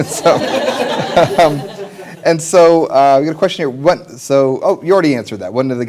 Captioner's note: laughter